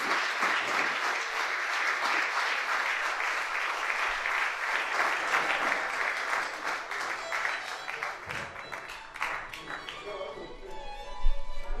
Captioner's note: applause